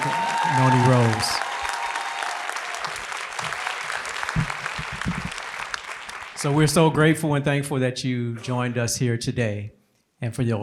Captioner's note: applause